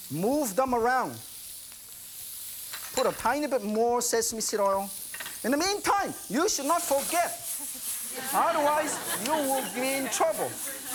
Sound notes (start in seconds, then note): 1.4 sizzling; 7.5 laughter